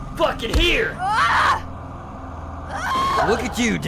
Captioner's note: Danny screams